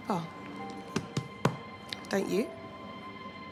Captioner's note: hand thudding; pensive music